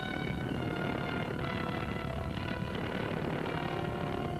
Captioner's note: dramatic music continues; fire roaring